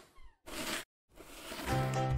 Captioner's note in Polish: dźwięk przesuwanej książki; dźwięk wysuwanej książki